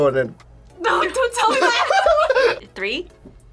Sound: laughs

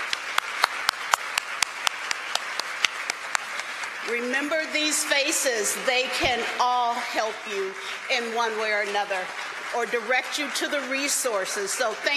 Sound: applause

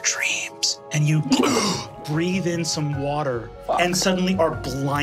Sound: gasps

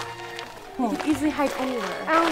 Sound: footsteps crunching

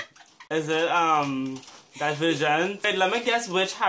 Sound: scandalous laughter; sarcasm

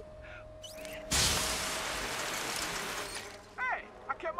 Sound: water spraying

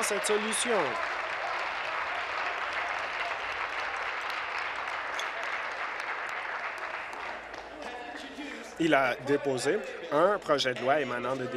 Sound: applause

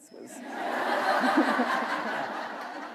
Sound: laughter

